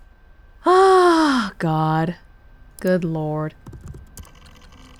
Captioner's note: sighs